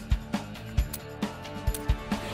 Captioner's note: Trigger locking